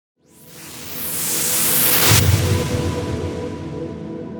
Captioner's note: whooshing